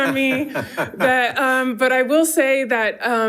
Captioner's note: participants laughing